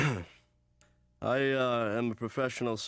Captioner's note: clears his throat; laughs weakly